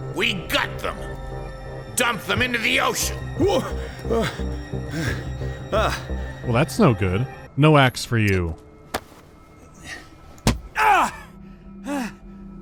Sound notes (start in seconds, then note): 4.9 anxious huffing; 8.7 clop; 10.4 thud